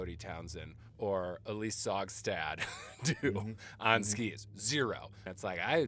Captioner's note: laughing